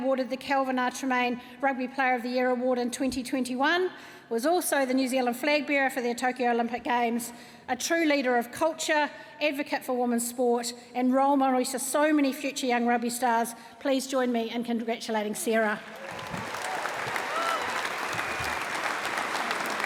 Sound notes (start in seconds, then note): 15.8 cheering, applause